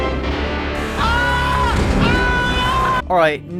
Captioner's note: screams